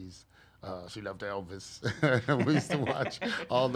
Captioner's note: laughs